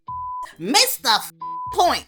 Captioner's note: beep